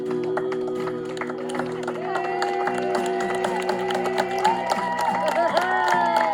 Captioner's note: guests applauding and cheering